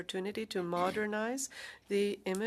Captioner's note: speaking French